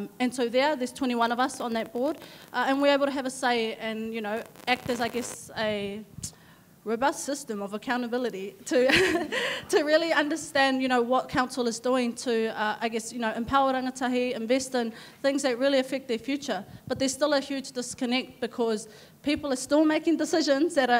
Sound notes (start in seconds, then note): 8.9 audience laughing; 8.9 laughs